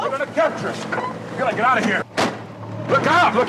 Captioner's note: car door slams